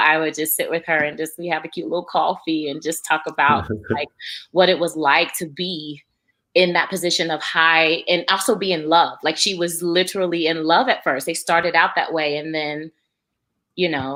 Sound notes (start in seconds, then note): 3.5 laughs